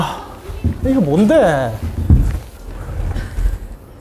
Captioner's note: studio is full of sighs